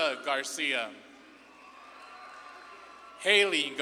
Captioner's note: audience claps and cheers